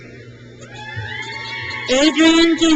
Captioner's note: crowd cheers